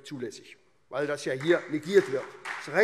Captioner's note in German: Beifall SPD